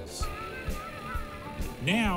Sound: laughs

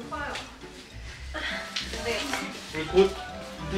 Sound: sigh

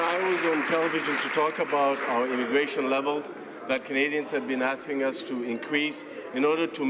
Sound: some Applause

